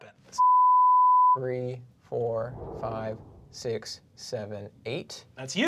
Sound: beep

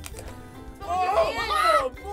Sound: exclamations

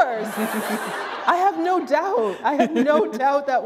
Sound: laughter

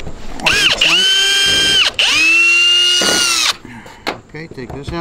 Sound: power drill runs

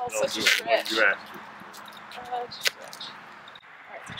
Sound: duct tape sounds

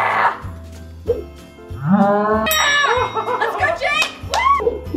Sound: slow motion whooshing and cheering

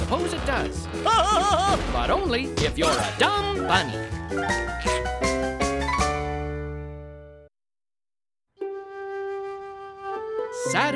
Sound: laughing

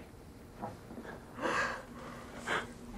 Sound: gasps

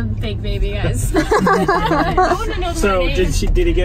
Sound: laughter

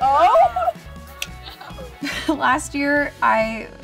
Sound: laughing

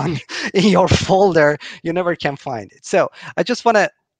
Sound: laughing

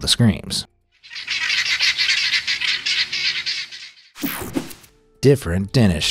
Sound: guineafowl squawking

